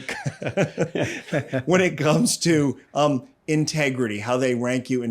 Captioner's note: laughs